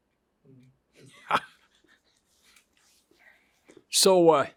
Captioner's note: laughs